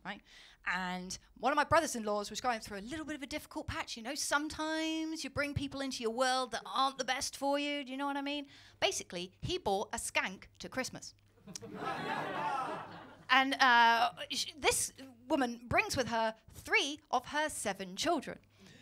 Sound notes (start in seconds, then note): 11.4 laughter